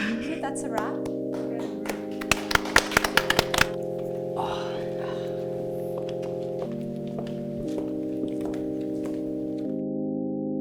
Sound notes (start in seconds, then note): 1.8 all clapping; 6.9 bass music plays